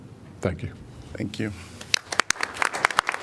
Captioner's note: applause